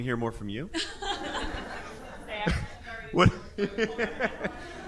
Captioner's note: all laughing